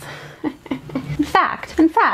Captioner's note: chuckles